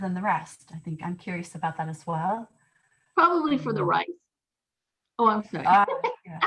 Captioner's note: laughter